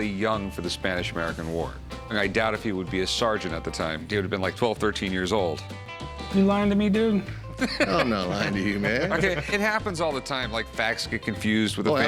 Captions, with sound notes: for the Spanish-American War. I doubt he would be a sergeant at the time. He would've been like 12, 13 years old. -You lyin' to me, dude? -[Rick laughs] -No, I'm not lying to you, man. -Okay, it happens all the time. -Facts get confused with family. -Oh, absolutely.